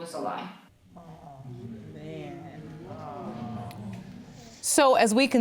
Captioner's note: audience moaning